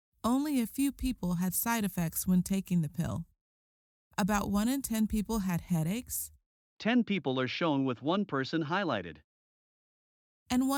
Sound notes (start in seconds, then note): 6.9 voiceover